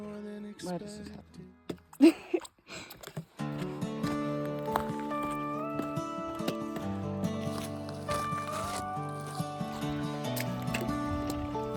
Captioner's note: laughs